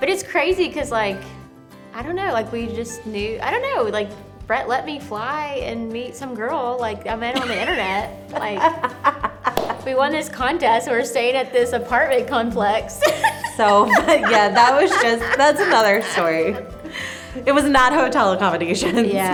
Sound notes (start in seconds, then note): 7.3 laughs; 12.8 laughs